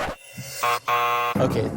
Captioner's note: buzzer sounds